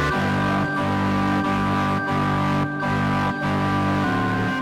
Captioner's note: audience chattering